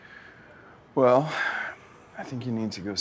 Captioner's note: sighs